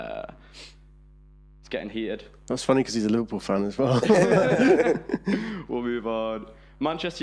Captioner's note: laughing